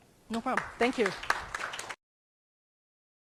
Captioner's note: crowd clapping